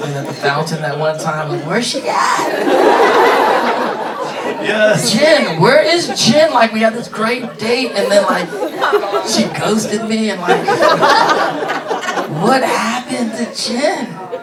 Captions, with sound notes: at the fountain that one time. I'm like, "Where's she at?" - Jin! Where is Jin? Like, we had this great date, and then like, she ghosted me, and like-- (laughing) What happened to Jin?